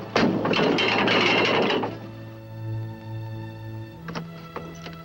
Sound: chain rattles

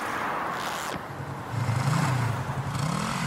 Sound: zipper zips; bike engine roaring

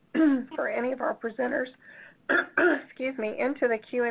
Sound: clearing throat

